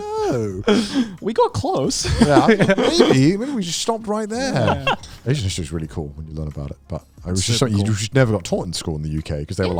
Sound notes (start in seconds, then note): 1.8 laughs